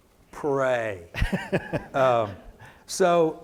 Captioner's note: laughs